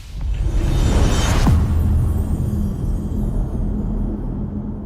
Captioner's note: dramatic sound